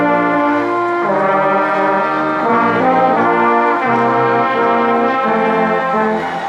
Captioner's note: ceremonious music continues; crowd cheering and applauding